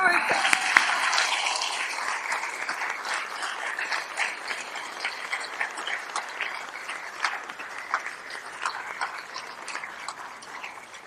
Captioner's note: applause